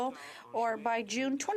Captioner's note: speaking French